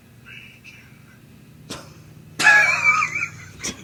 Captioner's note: laughing